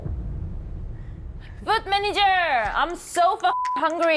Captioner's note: speaking in English